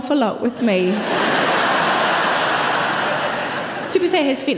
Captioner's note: audience laughs